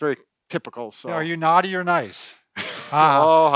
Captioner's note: laughs